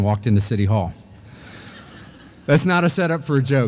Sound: audience laughing

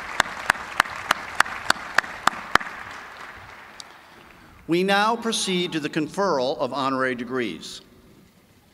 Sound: applause

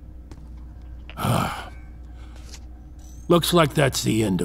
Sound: digital chime, mechanisms shut down

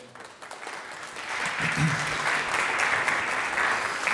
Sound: audience applauds

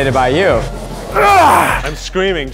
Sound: grunting

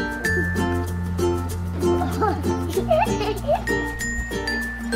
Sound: children laughing

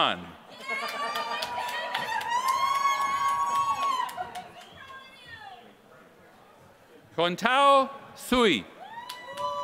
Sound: applause; applause

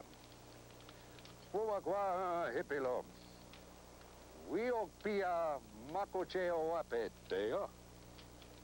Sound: speaking Sioux

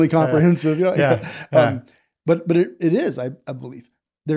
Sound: both laughing

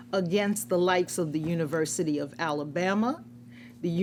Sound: none

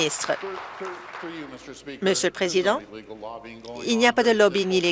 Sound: applause

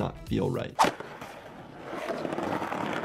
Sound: skateboard wheels rolling; graphic whooshing

